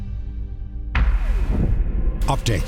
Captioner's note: boom